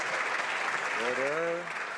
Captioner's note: some Applause